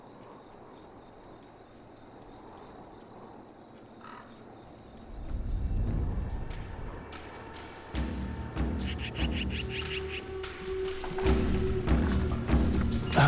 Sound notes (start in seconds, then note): 1.3 wind softly rustling; 9.2 soft intense music